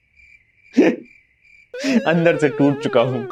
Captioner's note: laughing